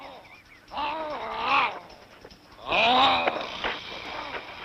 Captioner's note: grunting